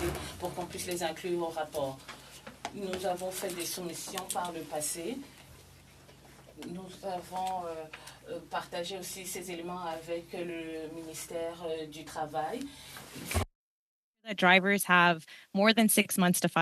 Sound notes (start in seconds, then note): 1.4 speaking French